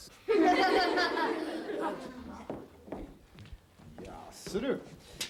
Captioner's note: children laughing